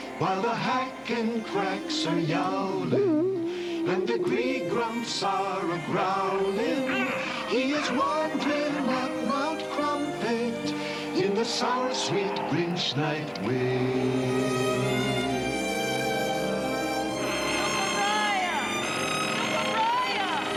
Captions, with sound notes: While the Hacken Cracks are yowling [ALL YOWLING] And the Gree-Grumps are a-growling [ALL GROWLING] He is wandering up Mount Crumpit In the sour-sweet Grinch Night wind Ukaraiah? Ukaraiah?